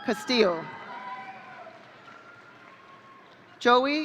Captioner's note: audience cheering